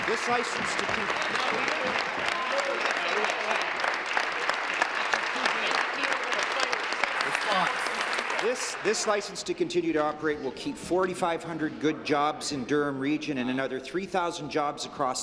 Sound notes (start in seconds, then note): 3.9 applause